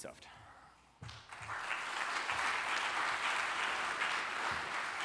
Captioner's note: applause